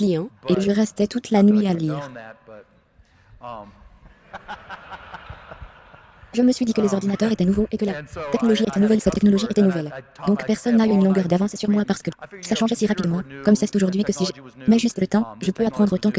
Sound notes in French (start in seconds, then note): 4.0 La foule rit